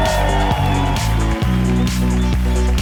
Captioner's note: people cheering; people clapping